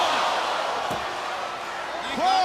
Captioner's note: crowd chatter